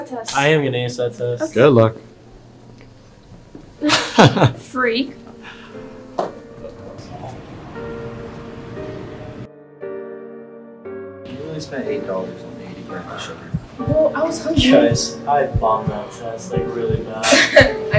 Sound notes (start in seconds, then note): 3.8 laugh; 13.4 heartbeats sound; 17.1 laughs